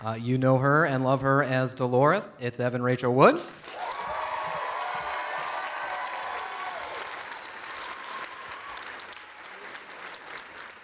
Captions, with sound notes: You know her and love her as Dolores, it's Evan Rachel Wood. (audience applauding)